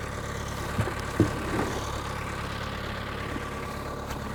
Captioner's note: skid-steer idling